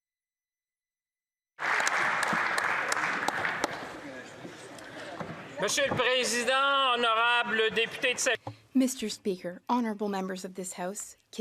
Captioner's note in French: applaudissements